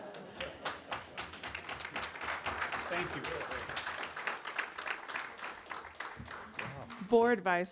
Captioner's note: applause